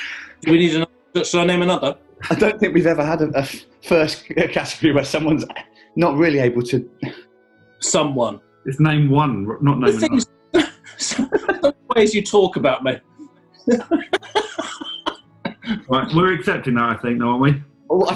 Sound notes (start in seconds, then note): 2.2 laughing; 10.5 giggling; 13.6 laughing